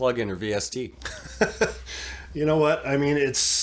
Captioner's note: laughs